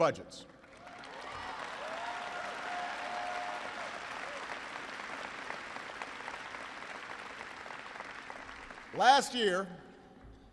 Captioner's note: applause